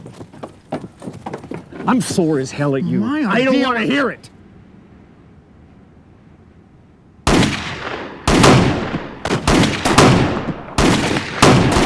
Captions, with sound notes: I'm sore as hell at you. My idea was-- I don't want to hear it. [GUNFIRE]